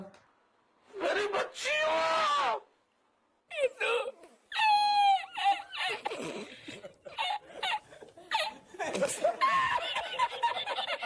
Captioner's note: hilarious Laugh